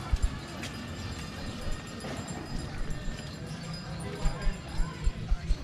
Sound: bell ringing

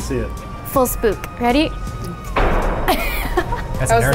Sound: laughs

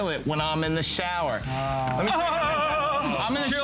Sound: laughter

